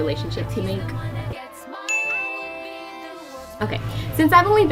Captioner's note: bell dinging